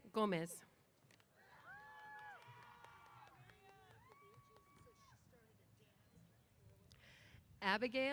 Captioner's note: cheers